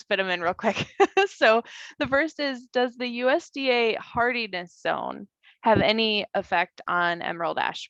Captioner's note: laughs